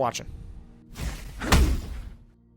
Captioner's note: swoosh, Thud